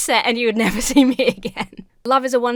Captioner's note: laughs